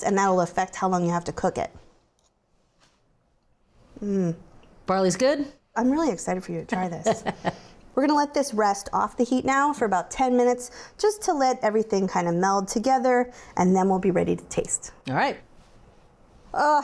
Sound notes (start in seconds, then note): 6.7 laughs